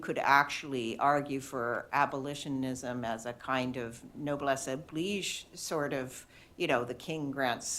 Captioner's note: french